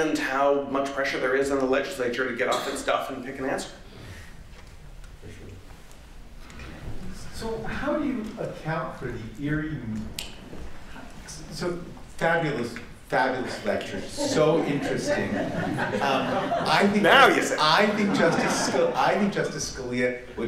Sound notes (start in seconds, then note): 16.1 laughter